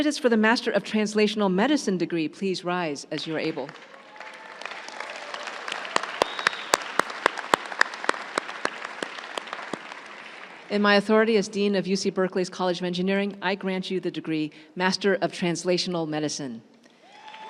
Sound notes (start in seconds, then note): 3.6 crowd cheering and applauding